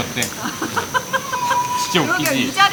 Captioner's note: laughs